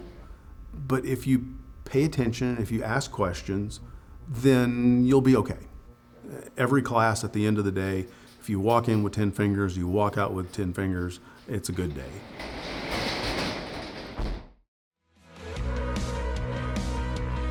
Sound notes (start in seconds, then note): 12.2 door slams; 15.4 lively music